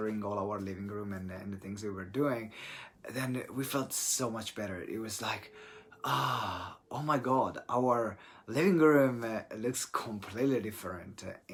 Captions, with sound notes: all our living room and the things that we were doing, then we felt so much better. It was like (relieved sigh) Oh my God, our living room looks completely different